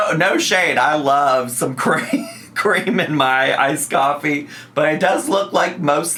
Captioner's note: laughs